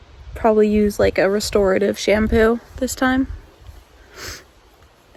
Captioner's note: sniffles